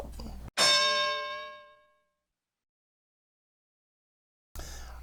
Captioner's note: bell